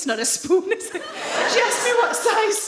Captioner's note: audience laughs